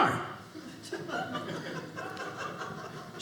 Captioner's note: audience laughing